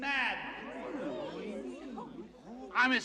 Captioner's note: Бормочет